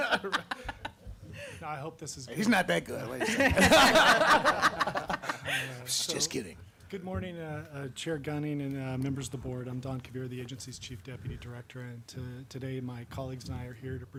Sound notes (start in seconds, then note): 3.2 laughter